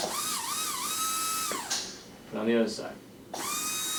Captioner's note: brush whirring; brush whirring